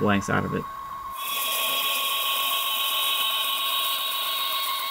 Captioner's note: machine whirs